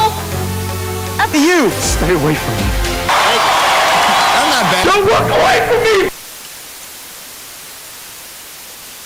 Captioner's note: from TV: "F- you"--"Stay away from me"-"I'm not bad." "Don't walk away from me!"